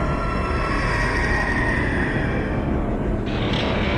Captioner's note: industrial sound